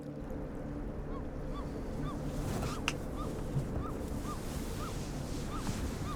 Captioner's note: bird squawks in the distance